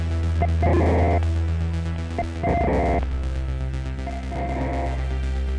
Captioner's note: distorted electronic tones ring